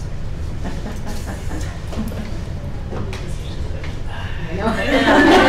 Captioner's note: giggling and murmuring